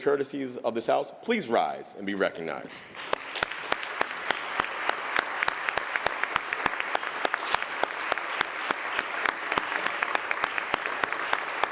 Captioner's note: applause